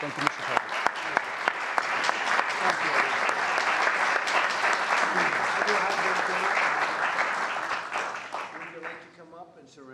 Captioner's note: applause